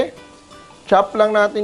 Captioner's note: sizzle